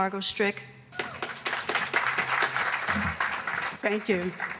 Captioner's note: applause